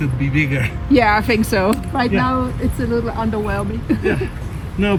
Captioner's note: laughs